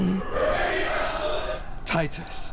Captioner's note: creature, screaming